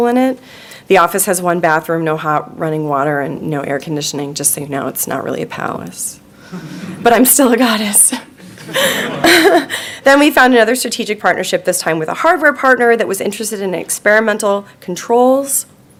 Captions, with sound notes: The office has one bathroom, no hot running water and no air conditioning, just so you know it's not really a powerless, but I'm still a goddess. (laughing) Then we found another strategic partnership this time with a hardware partner that was interested in experimental controls.